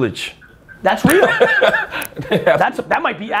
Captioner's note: Cha laughs